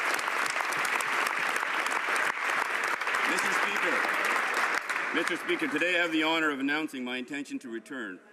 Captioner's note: some Applause